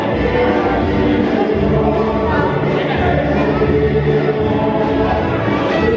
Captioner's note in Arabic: للأطفال يضحكون ويلعبون الموسيقى